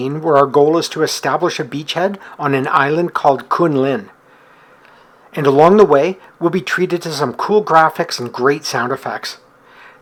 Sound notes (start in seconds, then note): none